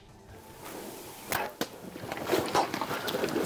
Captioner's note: bow firing; animals running